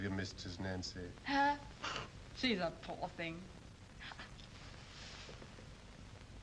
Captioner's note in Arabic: تسخر